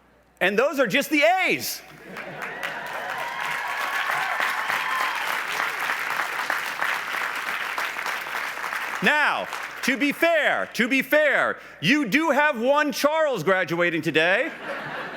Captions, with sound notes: and those are just the "A"s. (laughs) (applause) Now, to be fair, you do have one Charles graduating today. (laughs)